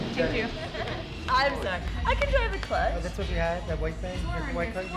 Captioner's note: people make small talk